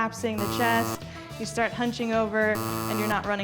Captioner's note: buzzer buzzing; buzzer buzzing